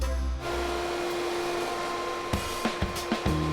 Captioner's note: vacuum running